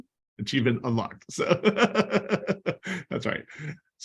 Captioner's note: laughter